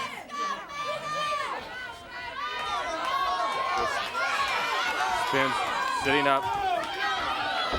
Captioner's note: crowd chatter